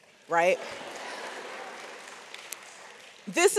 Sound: audience applauds

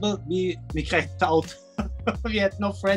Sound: laughing

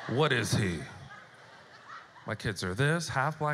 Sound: audience laughter

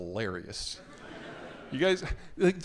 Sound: audience laughing

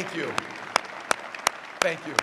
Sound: applause

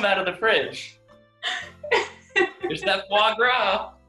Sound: laughs

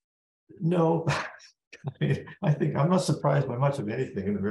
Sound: laugh

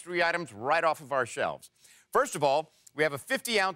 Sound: none

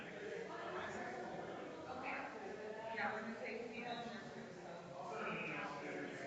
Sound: people chattering distantly continues

